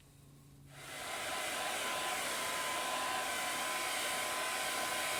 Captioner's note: air blowing